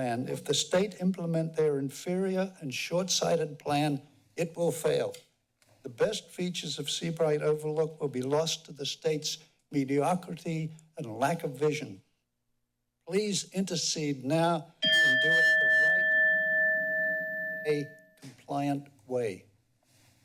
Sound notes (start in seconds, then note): 18.6 bell dings